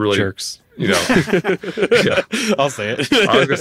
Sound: hosts laughing

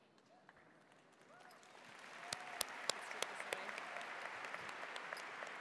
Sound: audience applauds

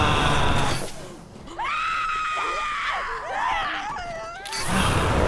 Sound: flames whoosh; runner shrieks in agony; flames whoosh

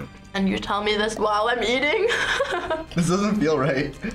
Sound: laughs

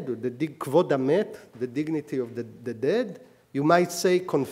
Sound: speaking hebrew

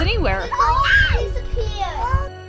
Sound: kids shriek

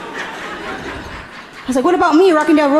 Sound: audience laughing gently

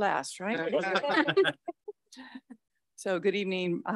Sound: all laughing

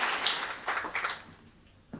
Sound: applause

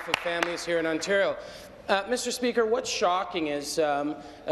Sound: applause

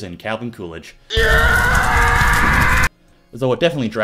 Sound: screaming

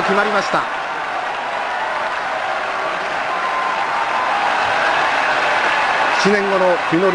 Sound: crowd cheers

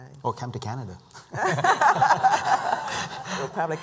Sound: laughter

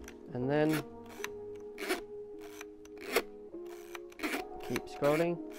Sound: winding film sound

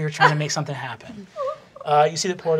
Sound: giggling

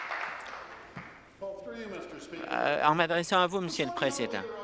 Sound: applause

